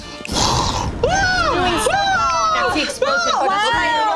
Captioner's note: Abby screaming